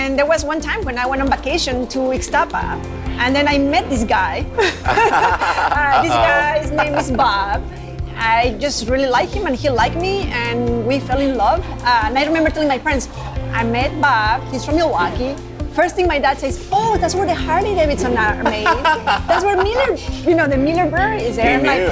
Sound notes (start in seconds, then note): 7.1 both laughing